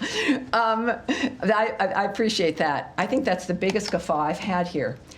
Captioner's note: laughter